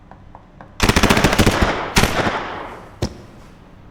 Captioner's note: gun fires